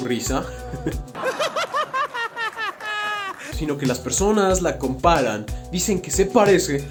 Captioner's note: laughs